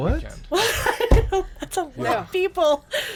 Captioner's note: woman laughs